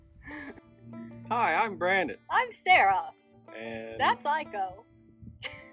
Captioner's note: silly voices